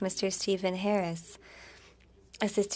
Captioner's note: speaking French